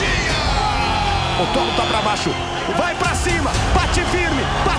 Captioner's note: commentary in Portuguese